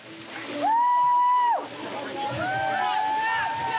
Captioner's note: hollers